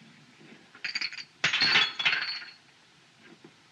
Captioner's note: glasses Shatter